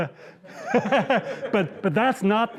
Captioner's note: laughs